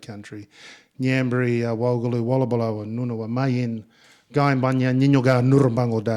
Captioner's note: speaking in Ngunnawal